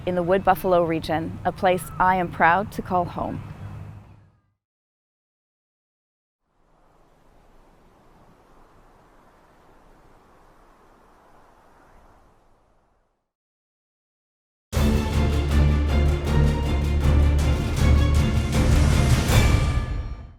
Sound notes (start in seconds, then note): 6.6 wind blowing; 14.7 tense dramatic music